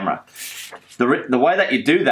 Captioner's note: paper sliding